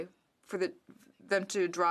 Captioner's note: speaking French